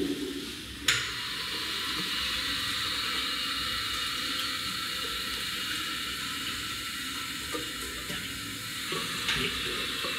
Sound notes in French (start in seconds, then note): 0.0 bruit d'évier